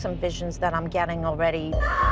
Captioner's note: ghostly screaming